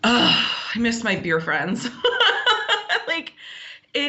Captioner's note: laughs